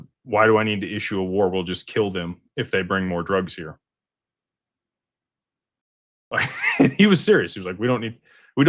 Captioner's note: laughter